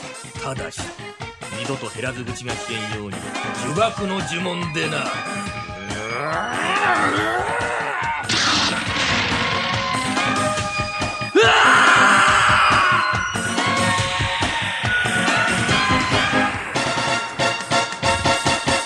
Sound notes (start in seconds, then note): 8.2 SFX: spell sound